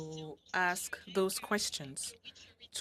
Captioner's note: speaking French